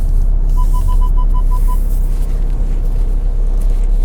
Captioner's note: rapid beeping